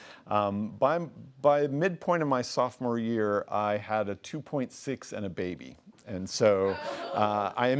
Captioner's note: laughing